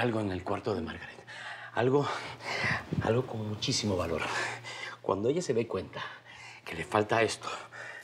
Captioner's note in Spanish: Jadeando